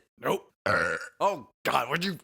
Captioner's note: loud burp